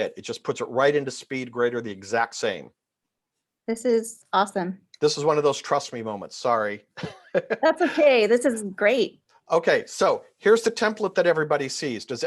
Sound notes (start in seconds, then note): 7.0 laughs